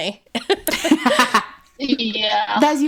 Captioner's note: both laughing